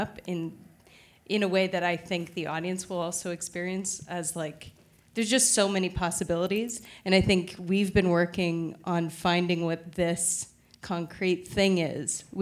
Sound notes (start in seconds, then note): none